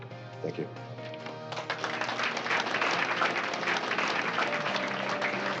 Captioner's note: applause